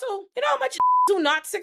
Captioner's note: beep